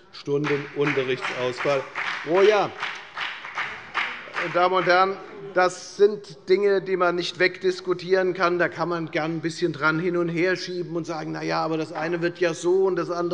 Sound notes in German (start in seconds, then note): 0.2 Beifall bei der FDP